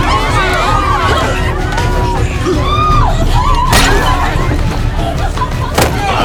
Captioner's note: screams